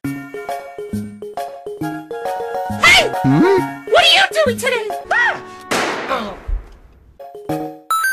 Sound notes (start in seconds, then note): 6.0 groans